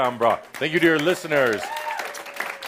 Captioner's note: applause